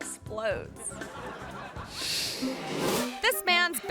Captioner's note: audience laughing